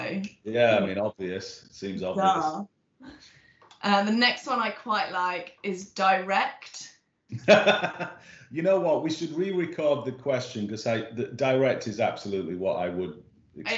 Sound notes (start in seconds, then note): 7.3 laughing